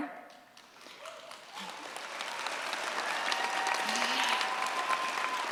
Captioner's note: cheers, applause